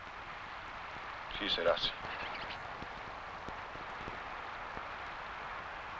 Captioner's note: speaking foreign language